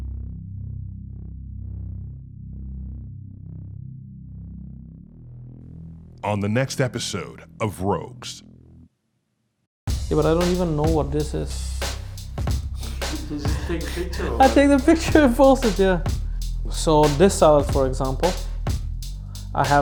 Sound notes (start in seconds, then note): 12.8 laughs